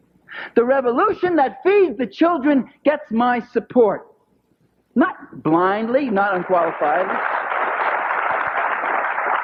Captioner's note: applause